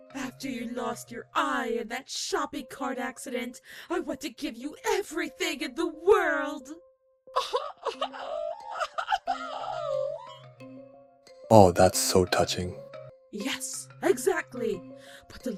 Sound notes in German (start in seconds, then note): 7.3 schluchz